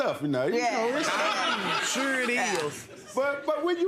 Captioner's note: audience laughing